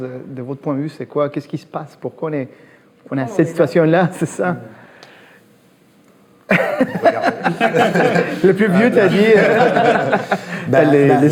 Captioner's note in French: rires